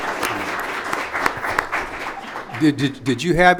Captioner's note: audience applauds